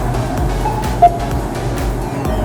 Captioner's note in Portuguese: beep